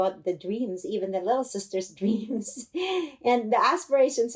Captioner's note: laughter